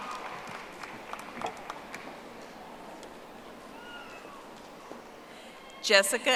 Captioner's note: audience applauding